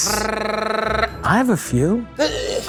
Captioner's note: Matty trilling